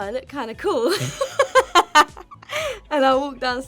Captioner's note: laughing